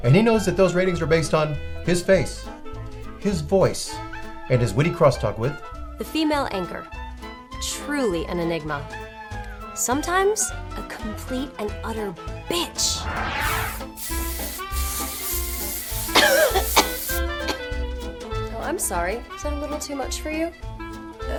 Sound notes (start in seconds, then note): 16.0 coughing